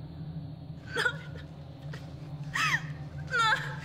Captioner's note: sobbing